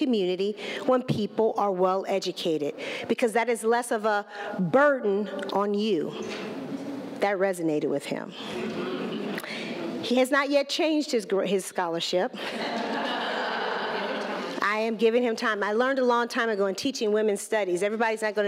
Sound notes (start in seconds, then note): 12.4 laughter